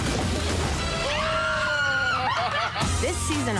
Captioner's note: cheering and laughing